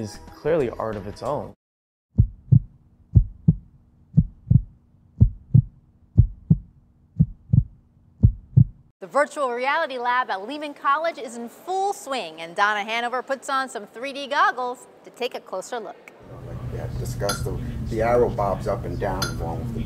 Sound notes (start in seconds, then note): 2.7 heart beating